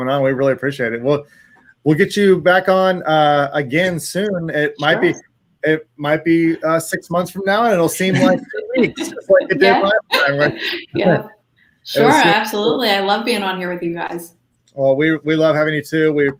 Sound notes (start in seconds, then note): 11.3 laughs